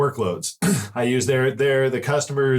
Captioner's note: clear throat